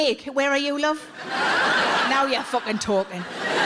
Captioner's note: audience laughs